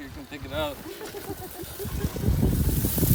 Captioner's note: laughs